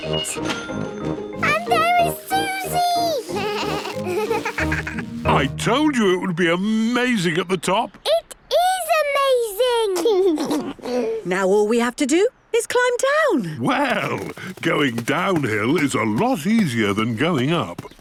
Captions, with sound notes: (cash register dinging) And there is Suzy! (bleating, laughing) - I told you it would be amazing at the top. - It is amazing! (George giggles) - Now, all we have to do is climb down. - Well, going down hill is a lot easier than going up!